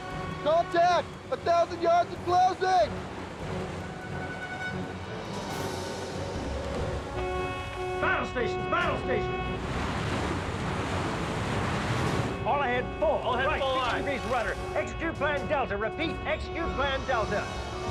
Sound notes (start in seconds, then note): 6.5 alarm sounding